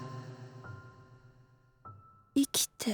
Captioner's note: silence